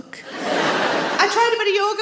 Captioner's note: audience laughs